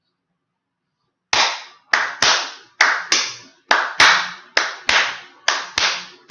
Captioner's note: claps short and long pattern